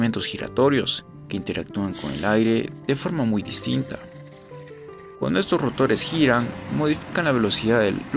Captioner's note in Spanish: resoplido